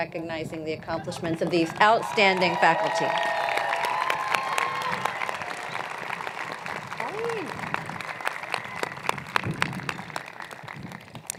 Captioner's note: cheers and Applause